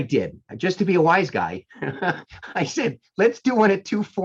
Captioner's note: laughing